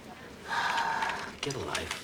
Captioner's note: sighs